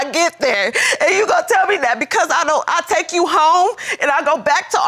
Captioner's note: sobbing